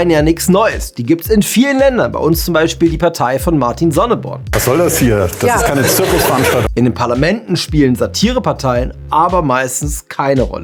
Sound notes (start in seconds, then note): 4.5 Lachen